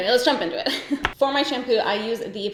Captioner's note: giggles